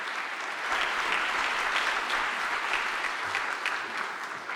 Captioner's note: audience applauding